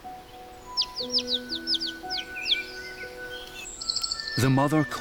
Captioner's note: chirping